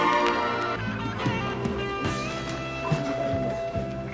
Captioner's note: sensual music playing; indistinct chattering